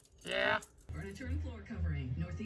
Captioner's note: on TV